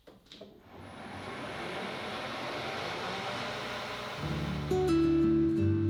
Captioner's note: machine whirring; soft guitar music